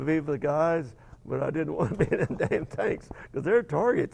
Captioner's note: laughing